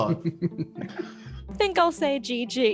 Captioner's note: laughs